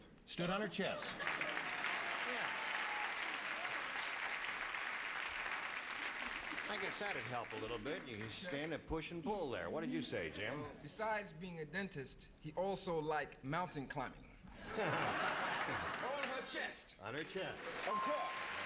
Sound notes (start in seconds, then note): 1.1 applause